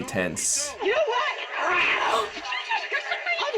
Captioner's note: hisses; gasps